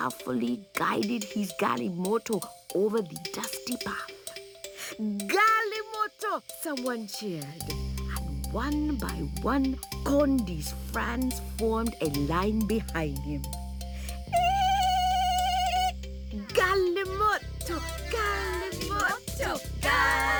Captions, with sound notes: He carefully guided his galimoto over the dusty path. "Galimoto," someone cheered and one by one, Kondi's friends formed a line behind him. (friends trill) "Galimoto, galimoto, galimoto, galimoto!"